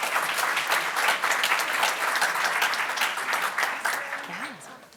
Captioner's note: audience clapping